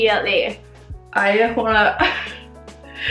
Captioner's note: giggles and mumbles